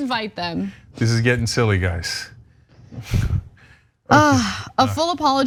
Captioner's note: laugh